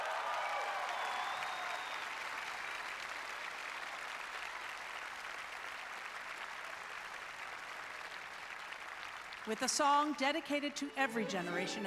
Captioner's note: applause